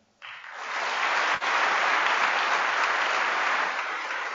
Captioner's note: applause